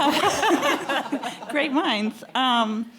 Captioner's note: audience laughing